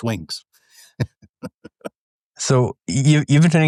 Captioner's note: laughs